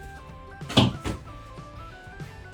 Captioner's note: big loud bonk from the hanger